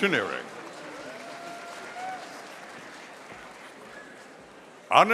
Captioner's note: audience applauding